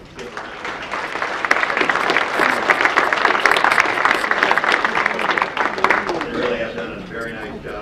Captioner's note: audience applause